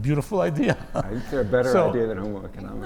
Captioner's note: laugh